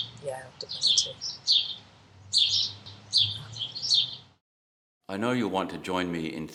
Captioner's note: birds chirping loudly